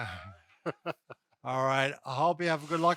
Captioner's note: laughs